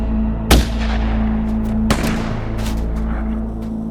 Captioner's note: gun fires